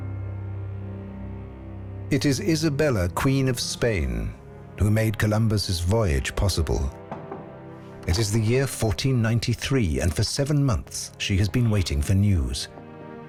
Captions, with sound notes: It is Isabella, queen of Spain, who made Columbus's voyage possible. [knock on door] It is the year 1493, and for seven months she has been waiting for news.